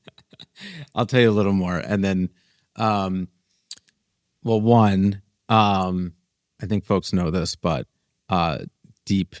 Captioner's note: laughs